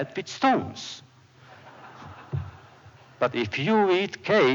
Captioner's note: laughter